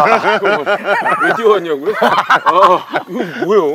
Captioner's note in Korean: 웃음